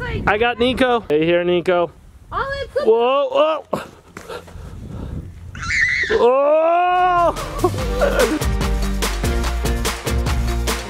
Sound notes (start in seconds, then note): 3.2 screaming; 5.6 screaming louder; 7.2 upbeat music